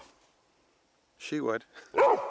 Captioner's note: dog barks